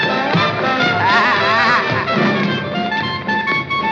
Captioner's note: laughs